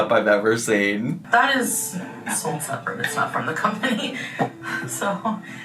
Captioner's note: laughs